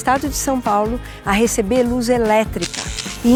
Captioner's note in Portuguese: zunido elétrico